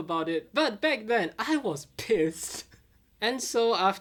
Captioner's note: laughing